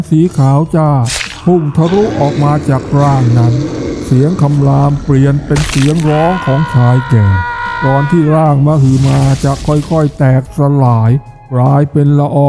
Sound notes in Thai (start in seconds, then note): 7.2 เสียงกรีดร้อง